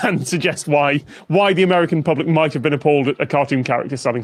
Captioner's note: none